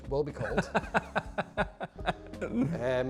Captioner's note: laugh